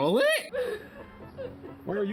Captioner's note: woman audibly robloxes